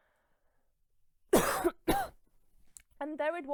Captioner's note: coughing